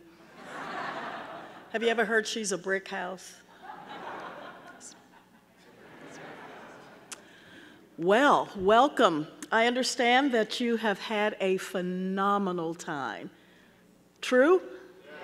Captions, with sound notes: (audience laughing) Have you ever heard "She's A Brickhouse"? That's me, that's me. (audience laughing) Well, welcome. I understand that you have had a phenomenal time, true?